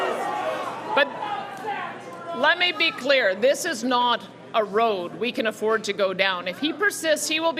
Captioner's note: cheering